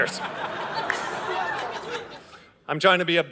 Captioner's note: audience laughing